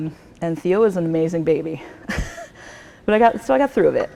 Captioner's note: laughs